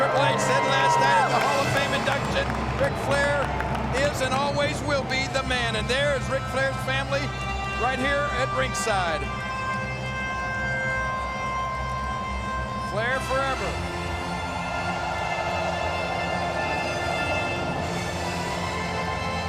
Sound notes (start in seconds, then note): 10.9 dramatic music continues; 15.0 crowd cheering